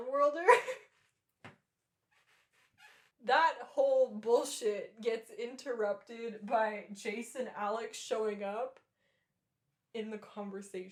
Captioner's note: laughter